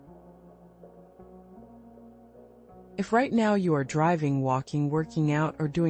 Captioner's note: pause